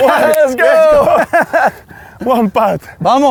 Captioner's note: laughs